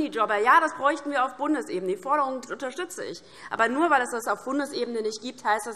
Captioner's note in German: none